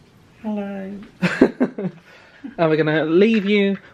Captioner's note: laughs